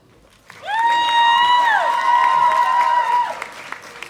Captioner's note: audience applauding